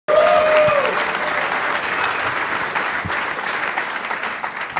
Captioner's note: applause